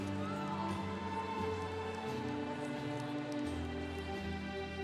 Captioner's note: congregation cheering